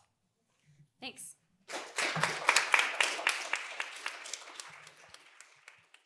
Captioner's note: applause